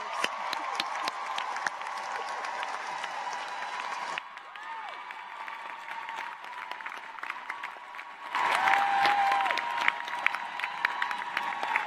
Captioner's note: cheers and applause